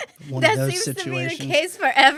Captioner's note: laughs